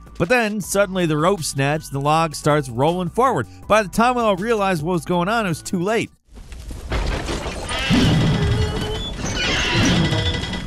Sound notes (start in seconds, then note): 6.4 wood creaking